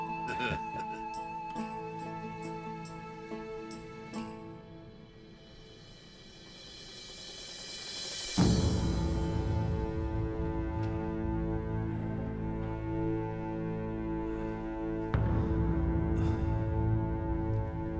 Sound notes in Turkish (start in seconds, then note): 0.1 Gülme sesleri; 8.3 Müzik - Gerilim; 16.1 Nefes sesi